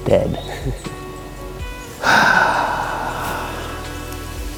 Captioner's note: long exhale